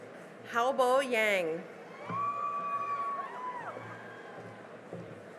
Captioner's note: cheering and applause